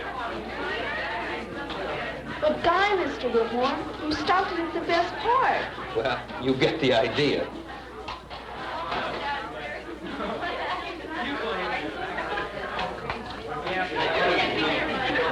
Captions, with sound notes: But, God, Mr. Whitmore, you stopped it at the best part. Well, you get the idea. [classroom chatter]